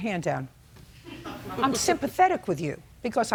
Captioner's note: attendees laughing